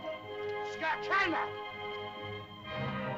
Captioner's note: Tumak shouts at caveman